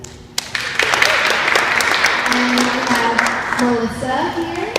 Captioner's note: clapping from audience